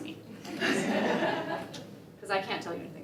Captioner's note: laughter